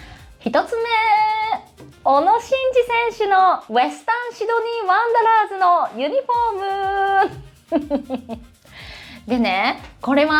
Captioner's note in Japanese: 笑い